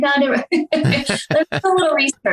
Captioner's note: laughter